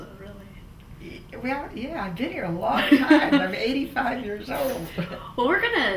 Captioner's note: laughs